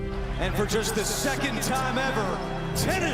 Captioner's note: tv broadcast